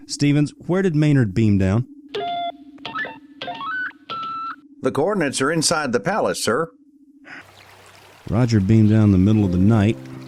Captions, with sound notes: Stevens where did Maynard beam down? (Electronic beeps) The Coordinates are inside the palace sir. Roger beamed down the middle of the night,